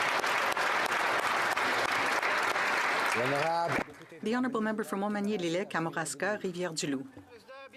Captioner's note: applause